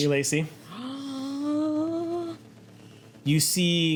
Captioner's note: gasps